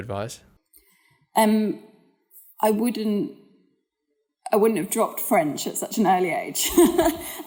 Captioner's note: laugh